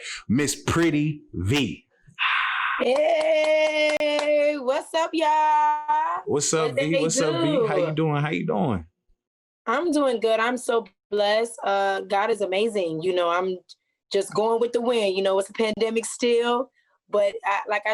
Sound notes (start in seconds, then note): 2.8 applauds